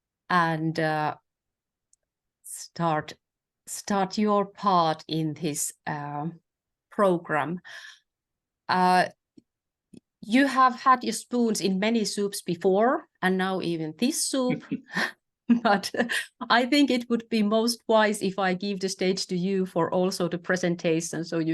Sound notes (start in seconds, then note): 14.5 chuckles